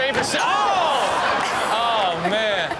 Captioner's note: audience exclaims